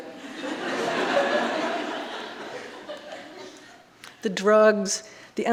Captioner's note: audience laughing